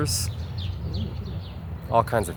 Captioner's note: birds chirruping